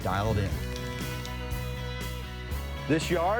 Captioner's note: upbeat music; spraying